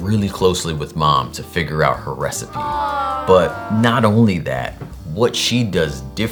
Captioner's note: awww